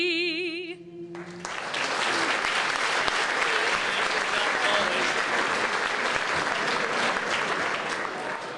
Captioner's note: applause